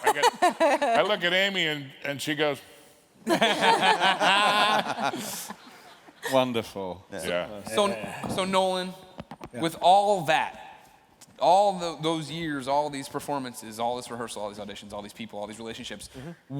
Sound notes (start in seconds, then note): 3.2 laughter